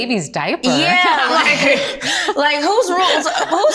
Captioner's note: laughing